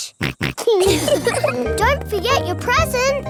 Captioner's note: snorts; laughs